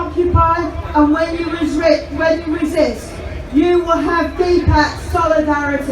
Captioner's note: crowd cheers